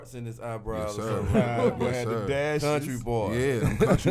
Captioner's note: laughing